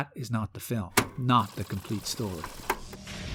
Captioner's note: rewind sounds